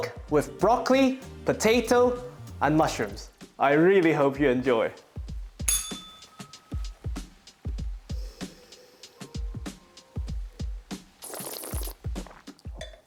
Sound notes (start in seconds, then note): 5.6 bell rings; 11.0 slurps